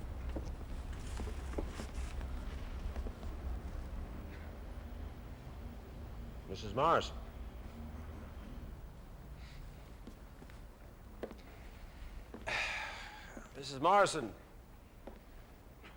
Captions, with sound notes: Mrs. Morrison. [EXHALES] Mrs. Morrison...